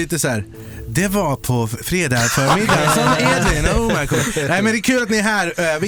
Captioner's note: imitating a news anchor